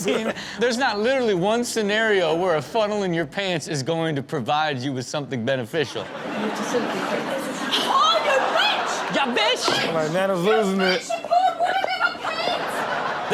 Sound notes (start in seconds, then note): 6.1 audience laughs